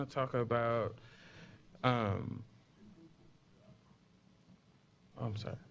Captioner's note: pause